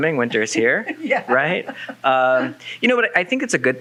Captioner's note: laughs